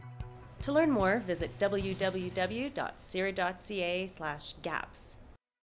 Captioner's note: voiceover